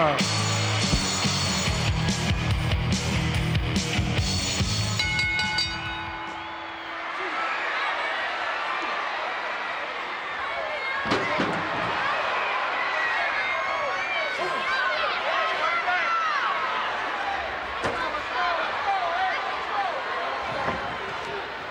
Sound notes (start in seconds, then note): 0.0 upbeat rock music; 4.5 bell dinging; 6.6 crowd cheering; 11.0 metal clangs; 12.0 crowd yelling; 17.9 head thuds; 19.0 crowd yelling